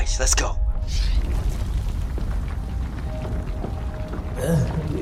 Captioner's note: earthquake